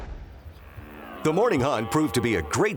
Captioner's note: stag roaring